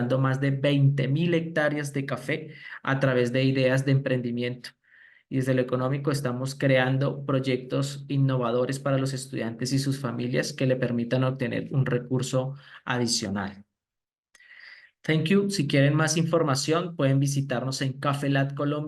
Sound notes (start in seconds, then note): 15.6 speaking spanish